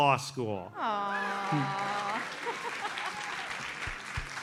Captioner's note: audience applauds